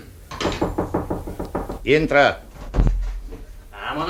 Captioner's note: bangs on the door